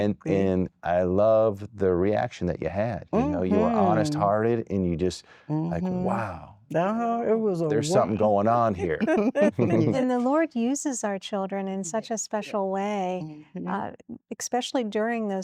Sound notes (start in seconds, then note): 8.8 laughter